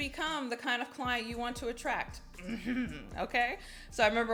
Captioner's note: giggles